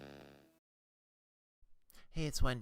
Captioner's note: static / intro